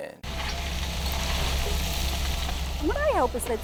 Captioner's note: heavy machinery